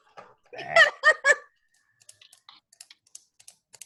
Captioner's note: laughs